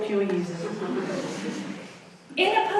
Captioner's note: audience laughs